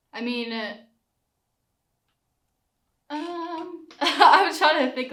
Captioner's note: laughs